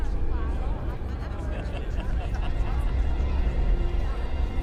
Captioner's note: students laughing